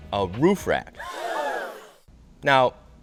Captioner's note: crowd gasping